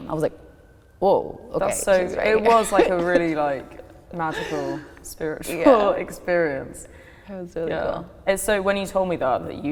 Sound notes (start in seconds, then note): 2.1 laughs